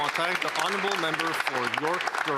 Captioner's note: some Applause